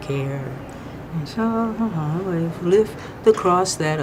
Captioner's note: humming